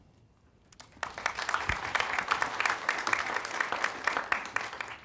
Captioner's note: audience clapping